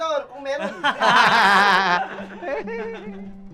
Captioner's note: laughs